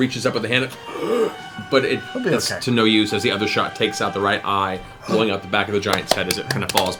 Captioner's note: gasps